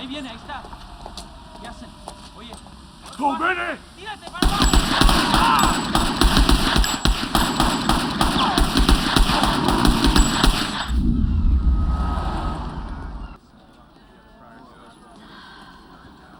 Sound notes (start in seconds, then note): 0.2 speaking Spanish; 2.8 shouts in Japanese